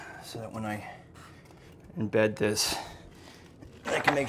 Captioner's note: none